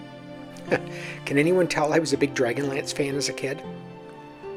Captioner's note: chuckles